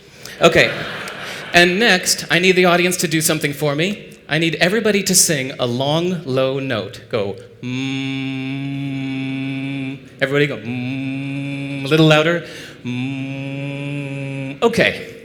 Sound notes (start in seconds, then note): 7.6 hum; 14.3 hum